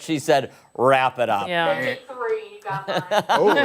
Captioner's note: laughter